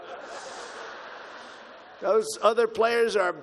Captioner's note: laughter